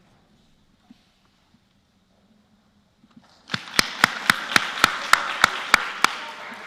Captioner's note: applause